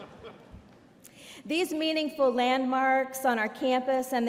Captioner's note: laughter